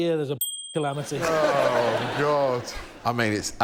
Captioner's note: laughter